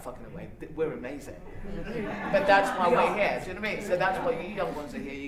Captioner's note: laughter